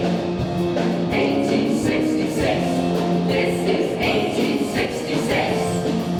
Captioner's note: shouted